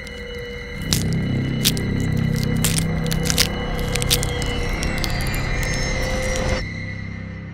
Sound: deadly Bone Cracking

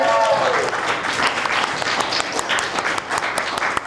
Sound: crowd applauding

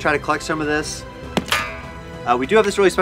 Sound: metal clanking

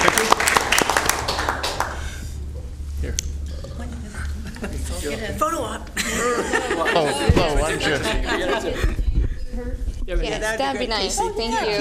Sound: applause

